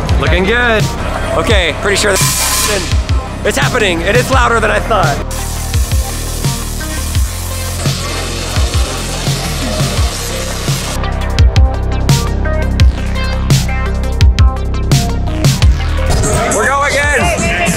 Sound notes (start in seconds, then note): 2.1 electricity buzzing; 5.2 electricity buzzing